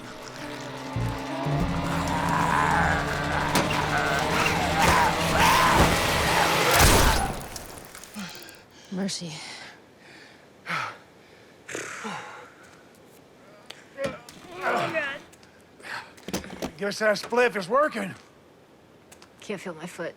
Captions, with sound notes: [snarling] [gunshot] - Oh, God. - I guess that spliff is working. - I can't feel my foot.